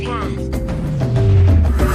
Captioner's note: portal noise fades; portal opens